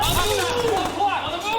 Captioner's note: guns firing